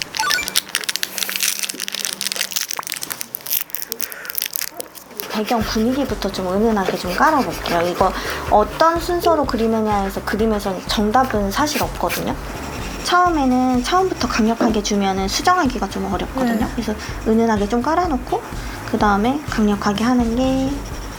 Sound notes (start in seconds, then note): 3.3 nom nom; 9.5 om nom nom